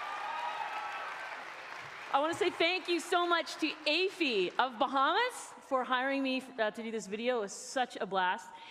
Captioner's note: cheering and Applause